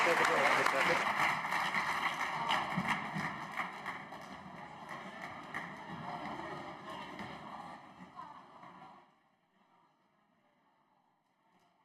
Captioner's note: applause